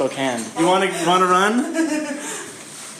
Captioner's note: giggling in the background